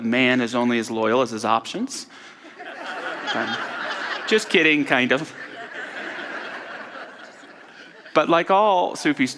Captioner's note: audience laughter